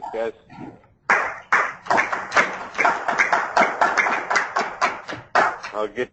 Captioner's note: applause